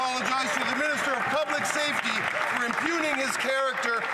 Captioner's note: applause